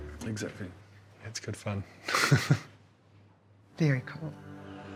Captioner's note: chuckles